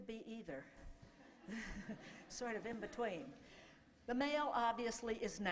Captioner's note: laughter